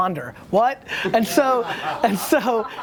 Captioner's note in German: Lachen